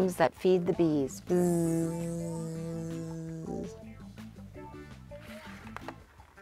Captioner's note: woman buzzes like a bee